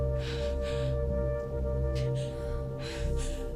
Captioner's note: Gina panting